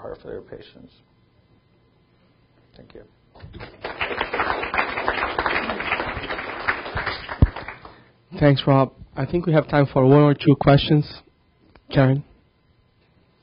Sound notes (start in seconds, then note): 3.5 audience applauding